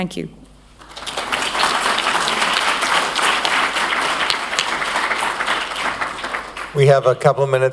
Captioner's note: applause